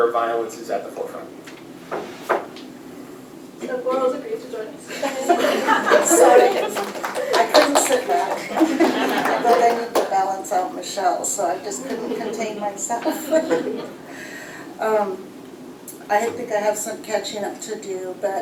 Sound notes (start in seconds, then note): 4.9 laughter; 7.1 applause